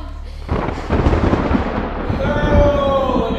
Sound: thunder rumbling

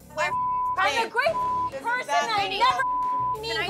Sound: beep

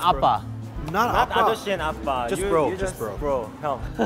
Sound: speaking Korean

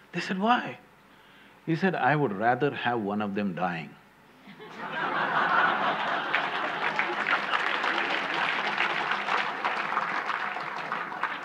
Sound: laughter/Applause

